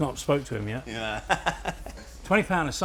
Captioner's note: laughs